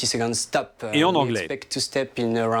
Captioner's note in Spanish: habla en inglés